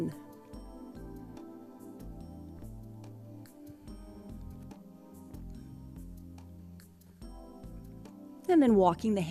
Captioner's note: silence